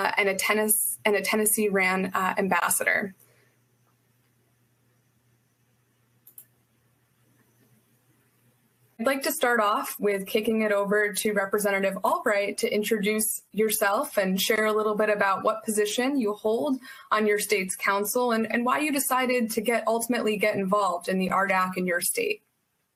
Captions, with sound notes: and a Tennessee RAN ambassador. (mouse clicking) I'd like to start off with kicking it over to Representative Albright to introduce yourself and share a little bit about what position you hold on your state's council and why you decided to ultimately get involved in the RDAC in your state.